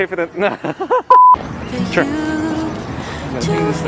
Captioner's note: laughs; beep